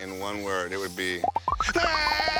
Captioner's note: imitating roller coaster rumbling